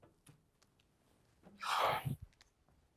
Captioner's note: sigh